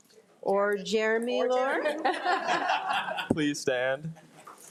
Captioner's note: crowd laughing